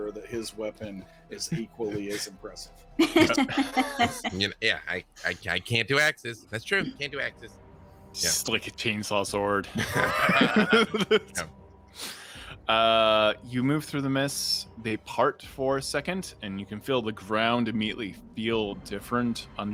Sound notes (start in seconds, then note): 3.0 laughs; 9.6 group laughing